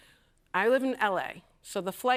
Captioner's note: none